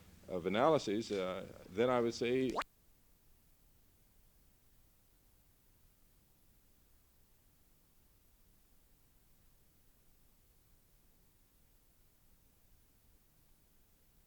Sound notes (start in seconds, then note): 2.4 no audio